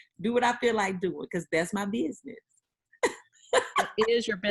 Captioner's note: laughing